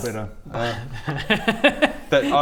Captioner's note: mischievous laugh